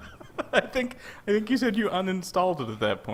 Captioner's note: laughs